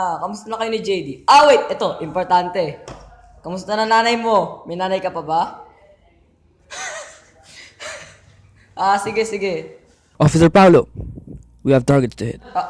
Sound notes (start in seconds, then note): 6.6 laughs